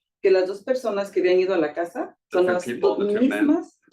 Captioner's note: speaking Spanish